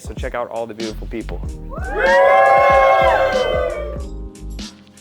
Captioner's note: participants cheering; mellow music